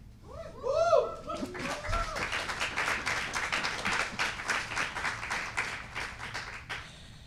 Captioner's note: cheering and applause